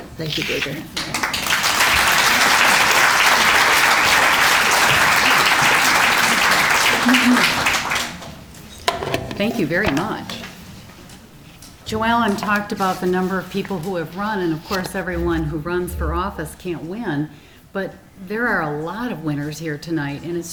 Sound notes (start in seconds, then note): 0.9 applause